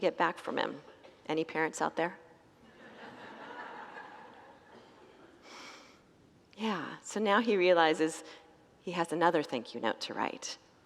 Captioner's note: congregants laugh